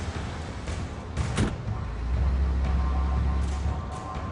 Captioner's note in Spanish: Ruido al prender el motor